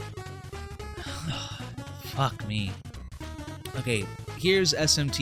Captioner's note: sighs